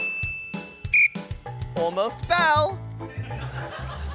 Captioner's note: whistle blows